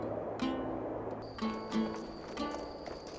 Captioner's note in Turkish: Cırcır böceği sesi